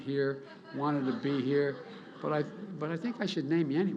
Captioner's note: laughter